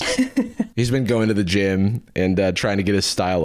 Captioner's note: laughs